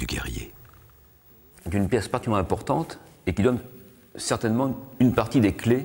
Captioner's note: French spoken audio